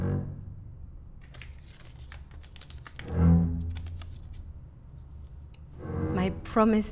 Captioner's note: Crinkling $10 Prosser Bill